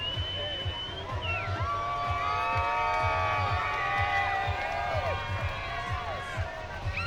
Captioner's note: cheering